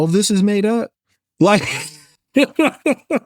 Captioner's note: laughs